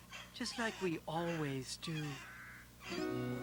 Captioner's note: meowing